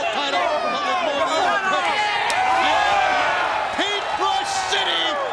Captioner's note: audience cheering